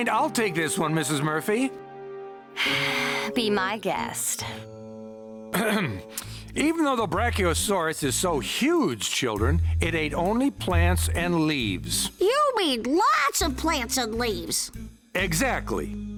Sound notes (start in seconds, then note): 2.6 sighs; 5.5 clears throat